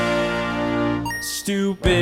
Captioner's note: console beeping